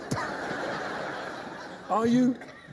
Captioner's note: laughter